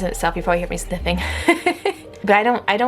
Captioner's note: laughing